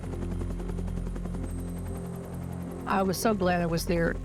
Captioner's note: helicopter whirring